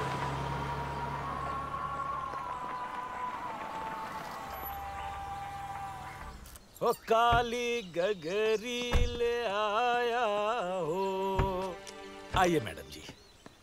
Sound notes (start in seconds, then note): 5.2 engine stops; 6.7 singing; 11.3 car door opens